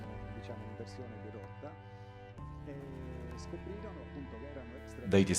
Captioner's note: dramatic music continues; speaking in foreign language